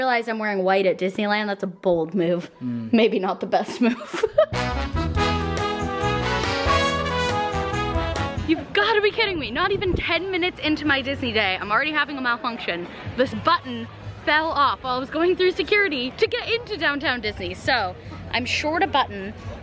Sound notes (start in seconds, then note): 3.8 laughs; 4.5 big band music